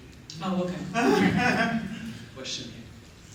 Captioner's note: laughter